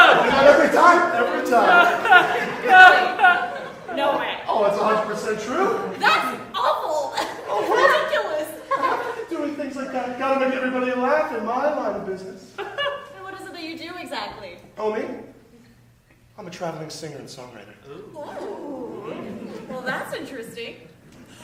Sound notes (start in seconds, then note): 17.8 raucus ooh-ing